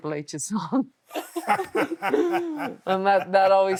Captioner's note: Steve and Becky laughing